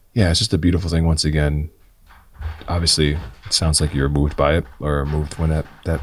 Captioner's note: none